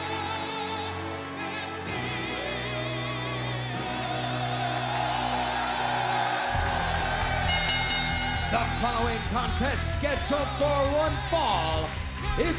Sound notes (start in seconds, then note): 3.8 crowd cheering; 7.3 bell ringing